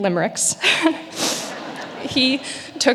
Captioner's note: audience laughing